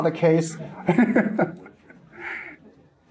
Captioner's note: audience and Presenter laugh